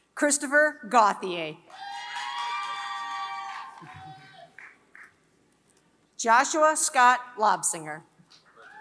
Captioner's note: applause; applause